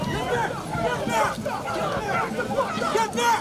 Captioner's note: shouting